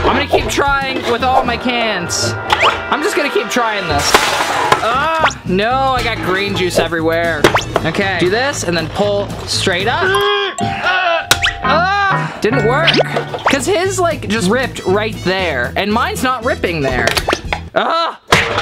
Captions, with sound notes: I'm gonna keep trying with all my cans! I'm just gonna keep trying though. Ugh! No! I got green juice everywhere. Okay, do this and then pull straight up. (grunts) Ahh! Ahh, didn't work... 'cause his is like ripped right there and mine's not ripping there? Ugh!